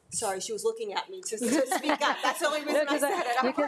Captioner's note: group laughs